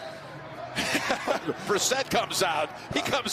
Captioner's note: Tony laughs